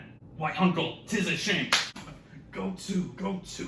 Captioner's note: slap!